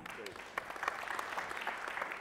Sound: applause

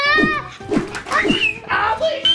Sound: screaming

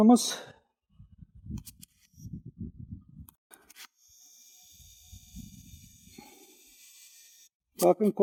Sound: zzzzzzzzzzzzzzzııııııı we zooming sound

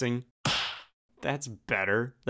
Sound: hand smack

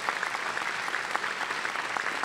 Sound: applause

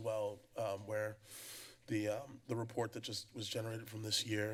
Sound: inhales

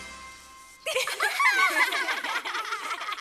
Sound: laughter

